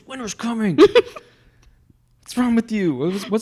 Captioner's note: laughs